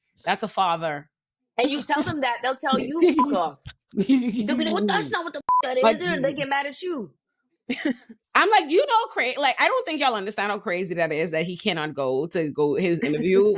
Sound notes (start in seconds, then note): 2.7 laughing; 5.4 beep